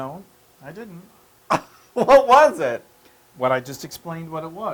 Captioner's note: laugh